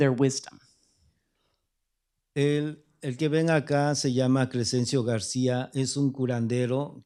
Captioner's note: speaking spanish